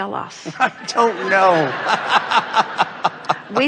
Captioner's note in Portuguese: Audiência e convidado riem